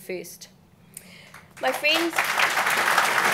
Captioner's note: applause